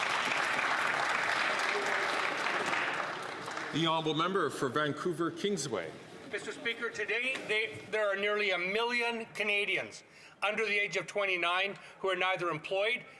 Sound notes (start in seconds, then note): 3.7 some Applause